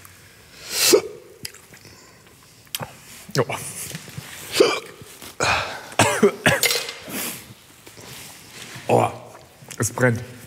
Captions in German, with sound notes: (Schluckauf) Oah. (Schluckauf) (Husten) Oah. Es brennt.